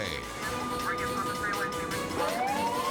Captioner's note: sirens wailing